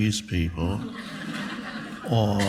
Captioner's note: audience laughs